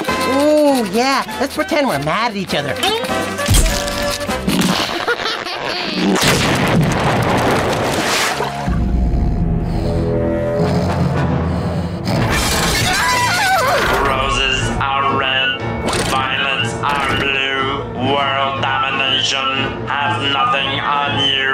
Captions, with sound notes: Ooh! Yeah, let's pretend we're mad at each other. [laughing] [screaming] Roses are red, violets are blu, world domination has nothing on you.